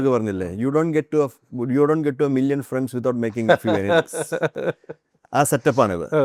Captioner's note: laughs